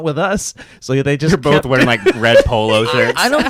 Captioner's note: laughs